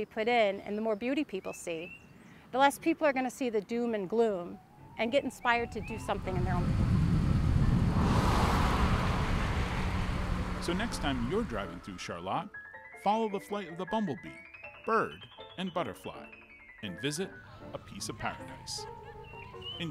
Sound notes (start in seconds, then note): 8.4 car humming; 8.4 vibrant piano music